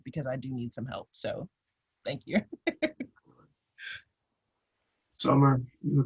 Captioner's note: laughs